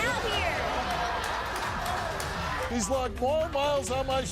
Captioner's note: laughs